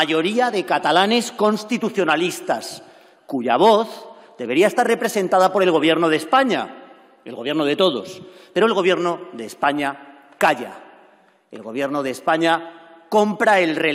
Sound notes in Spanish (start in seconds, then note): none